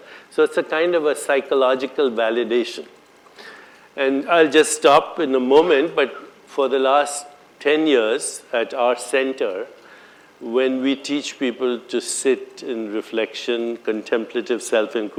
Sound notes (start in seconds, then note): none